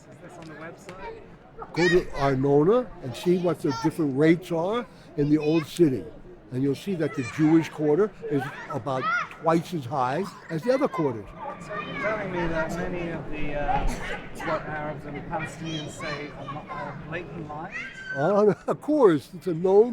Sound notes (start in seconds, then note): 0.0 voiceover; 10.3 voiceover; 16.9 laughs